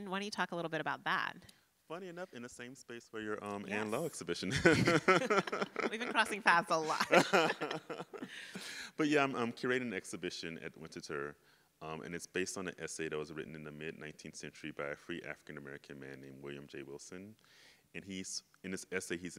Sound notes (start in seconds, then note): 4.4 laugh